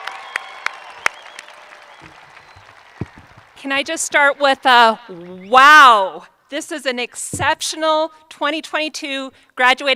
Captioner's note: applause